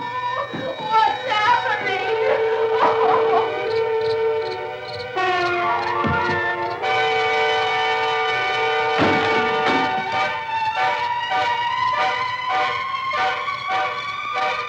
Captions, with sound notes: What's happening? [crickets] [dramatic music]